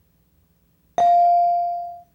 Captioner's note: bell dinging